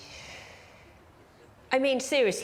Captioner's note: sighs